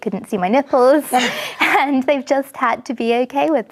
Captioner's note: ladies laughing